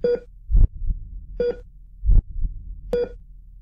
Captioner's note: machine beep